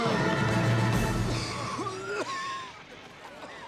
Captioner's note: coughing